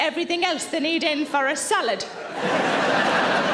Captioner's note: audience laughing